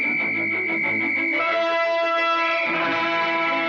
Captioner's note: whistle blowing; upbeat music